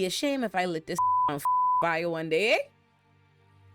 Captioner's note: beep